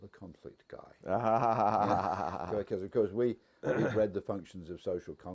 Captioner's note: laugh